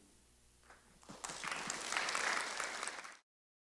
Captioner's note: applause